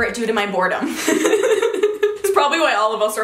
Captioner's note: laughing